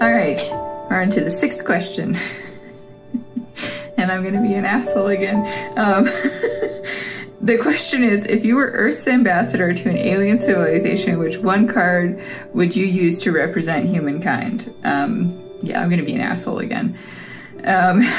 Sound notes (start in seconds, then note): 3.0 laugh; 6.0 laugh